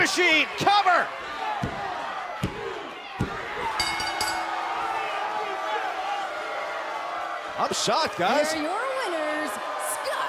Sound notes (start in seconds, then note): 3.7 bell; 4.9 cheers & applause